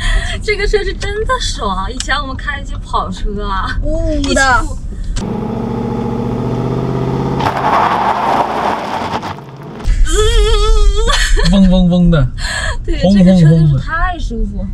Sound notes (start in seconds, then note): 5.2 whining